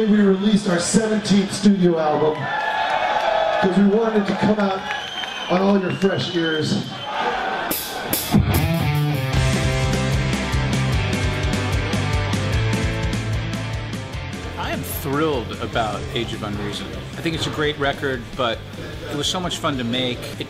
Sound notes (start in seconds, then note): 2.5 crowd cheering; 8.0 punk music playing